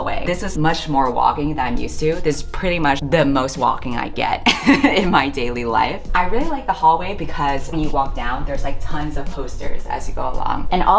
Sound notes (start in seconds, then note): 4.4 laughs